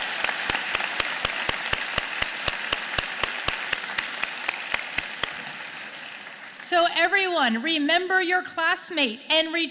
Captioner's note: applause